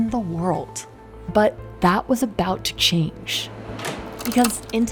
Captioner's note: door clanging